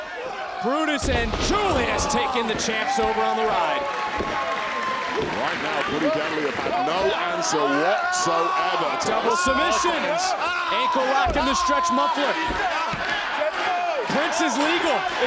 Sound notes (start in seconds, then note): 4.0 audience cheering